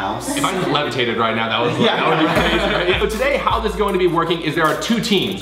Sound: they all laugh

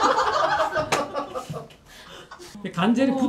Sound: chuckling

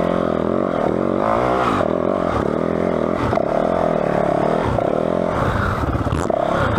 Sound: engine revving

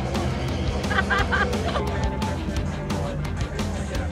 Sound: laughing

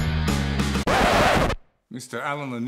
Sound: record Scratch

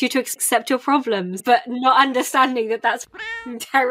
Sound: laughing

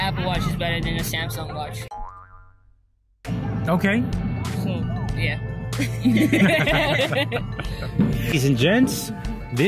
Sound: laughing

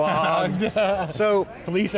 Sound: laughing

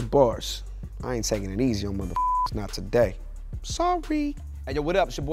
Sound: beep

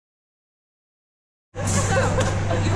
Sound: person Laughing

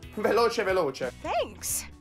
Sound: speaking Italian

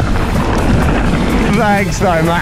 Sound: bike clatters

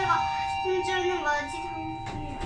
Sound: up chime rings

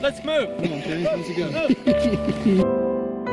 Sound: laughs

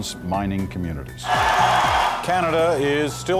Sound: cheering

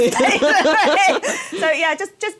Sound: laughter

